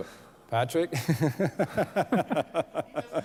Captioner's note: laughter